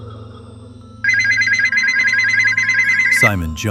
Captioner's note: phone ringing